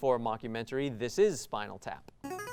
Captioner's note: ring-in sound